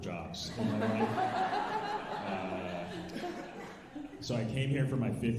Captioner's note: alumni laughing